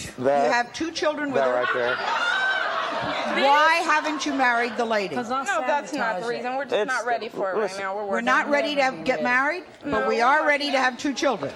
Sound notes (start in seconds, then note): 2.1 audience shouting